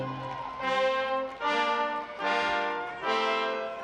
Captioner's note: audience applauding; bright instrumental music